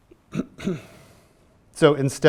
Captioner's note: clears throat